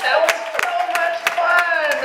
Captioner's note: audience claps and cheers